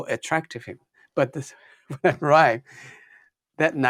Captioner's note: laughs